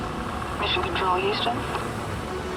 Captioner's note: astronaut over radio